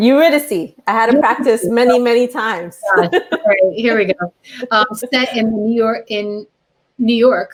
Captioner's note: laughter